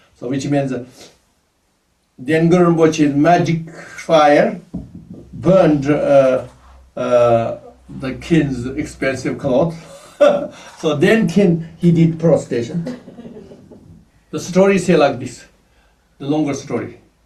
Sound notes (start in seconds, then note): 9.8 laughs